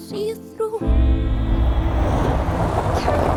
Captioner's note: gravel crunching